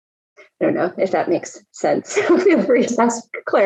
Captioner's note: laughs